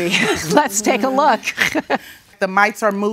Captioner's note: laughs